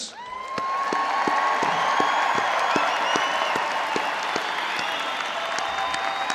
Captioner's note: audience cheering and applauding